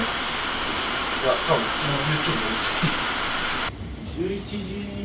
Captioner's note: laughs